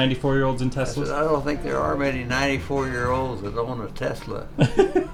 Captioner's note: laughs